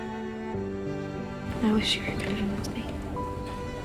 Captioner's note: voiceover